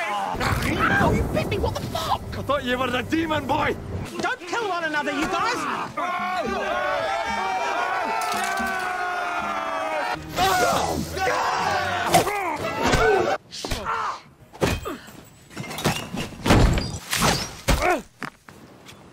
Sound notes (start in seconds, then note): 5.9 yelling; 8.5 cheering